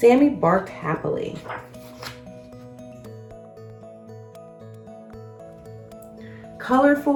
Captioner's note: pages shuffles; uplifting instrumental music